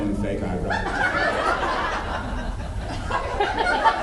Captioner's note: laughs; laughs